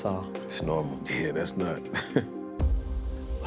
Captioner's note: laughs